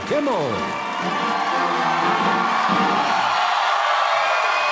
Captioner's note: cheers and applause